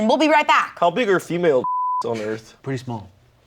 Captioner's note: beep